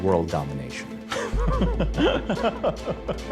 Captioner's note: laughter